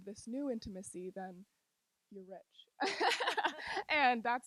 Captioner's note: laughing